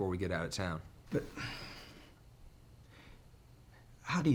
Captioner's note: sighs